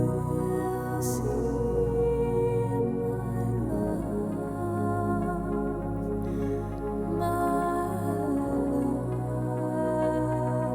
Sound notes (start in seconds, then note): none